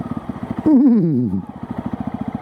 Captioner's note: neighs